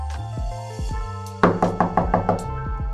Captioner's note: knocking On Door